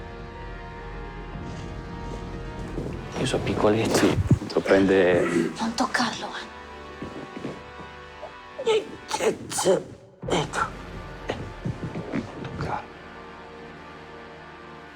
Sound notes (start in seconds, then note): 5.5 whispering